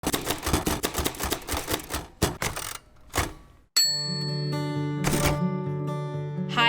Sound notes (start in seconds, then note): 0.0 typewriter clicks; 5.0 typewriter dings